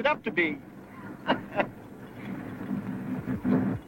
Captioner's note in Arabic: يضحك